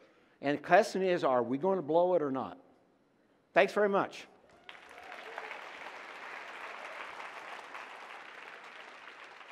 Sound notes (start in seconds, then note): 4.5 applause